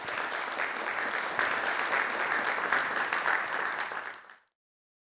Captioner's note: audience applauding